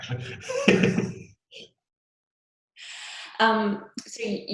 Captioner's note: laughs